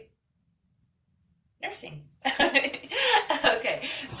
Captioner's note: laughs